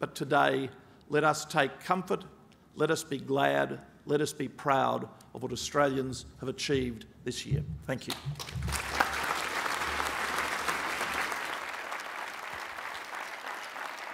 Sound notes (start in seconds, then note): 8.0 applause